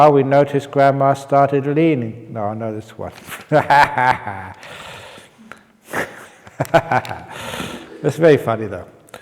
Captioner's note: chuckle